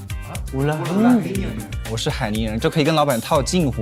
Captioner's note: in dialect